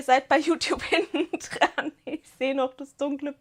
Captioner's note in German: Gelächter